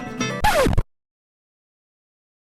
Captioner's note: record scratch - music stops